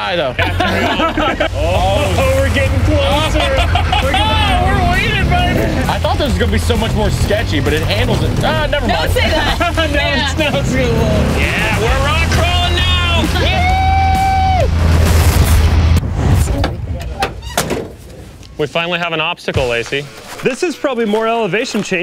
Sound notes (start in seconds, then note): 0.0 team laughs; 8.9 laughs; 17.0 door closes